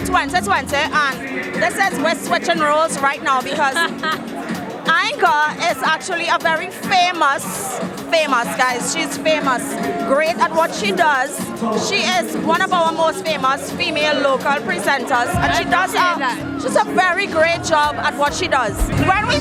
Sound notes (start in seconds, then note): 3.4 laughs